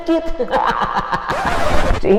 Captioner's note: laughter